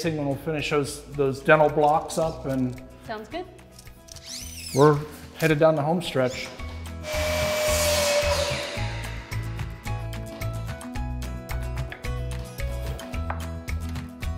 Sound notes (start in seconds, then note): 7.0 saw whirs; 10.0 guitar and keys music continues